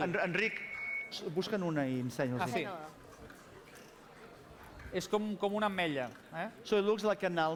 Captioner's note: non-english speech